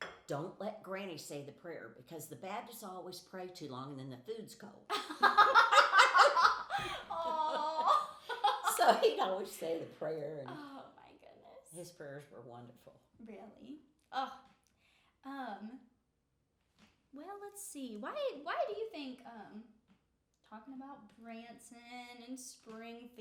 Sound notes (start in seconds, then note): 4.9 laughing